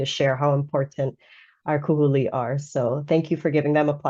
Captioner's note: speaking in foreign language